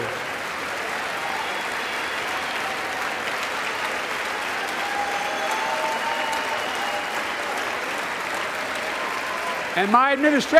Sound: applause

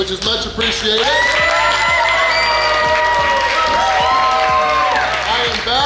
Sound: cheering & Clapping

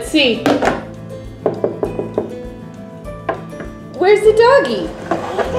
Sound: knocking

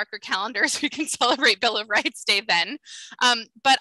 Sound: laughter

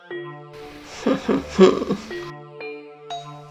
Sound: laughs quietly

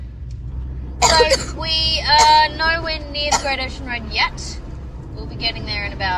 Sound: coughs more

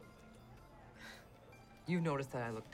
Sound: sighing

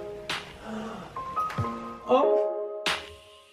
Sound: gasping

